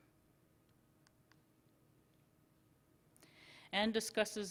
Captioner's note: silence